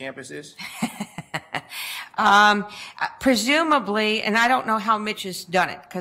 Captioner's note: laughs